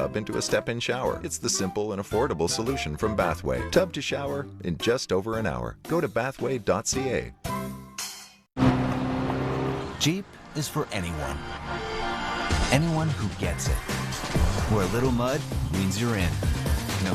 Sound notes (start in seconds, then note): 8.6 engine revs